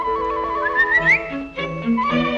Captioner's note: whistling